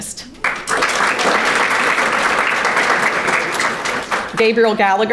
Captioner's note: audience applauding